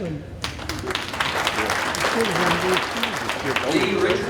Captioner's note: audience applauding